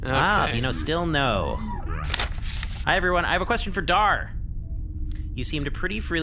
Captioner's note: flips through paper